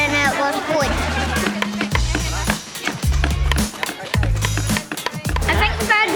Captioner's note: hammering